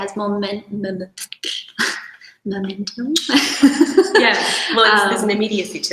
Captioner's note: laughs